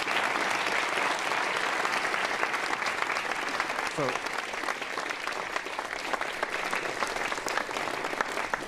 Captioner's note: applause